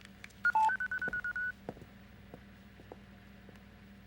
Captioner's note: machine beeping